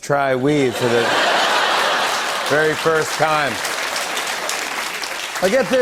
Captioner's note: laughter and applause